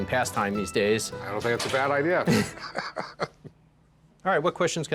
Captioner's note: laughs